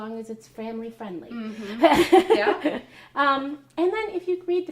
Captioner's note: laughter